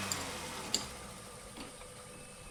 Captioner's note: engine dies down